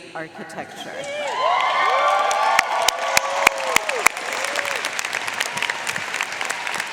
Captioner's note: audience cheering and applauding